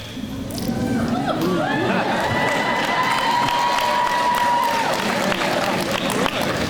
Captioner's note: crowd cheers and laughs